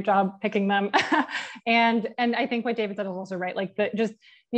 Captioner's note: laugh